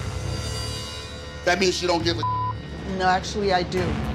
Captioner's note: beep